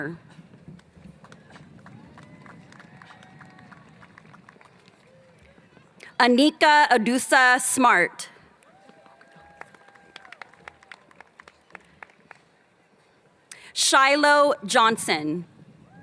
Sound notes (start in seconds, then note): 1.4 applause